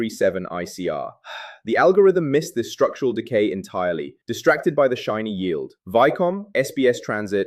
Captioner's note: sighs